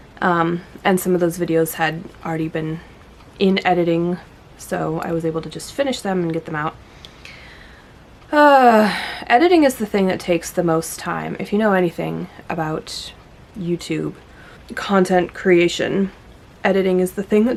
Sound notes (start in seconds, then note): 8.8 sigh